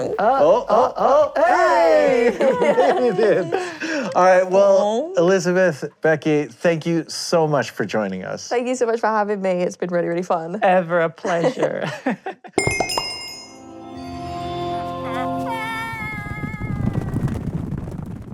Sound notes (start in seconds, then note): 12.6 chiming; 15.0 soft scream